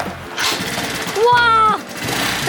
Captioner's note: excited shouting